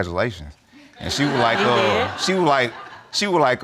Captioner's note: audience laughing